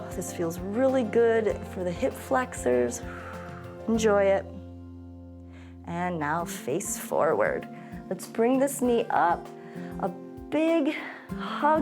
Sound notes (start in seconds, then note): 3.0 exhales